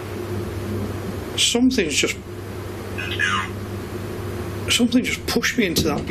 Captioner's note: beeping